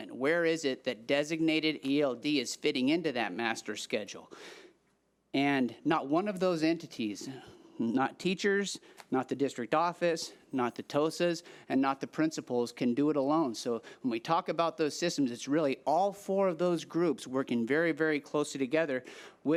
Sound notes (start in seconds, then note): none